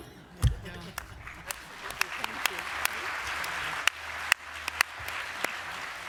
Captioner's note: applause